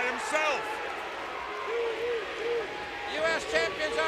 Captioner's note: crowd cheering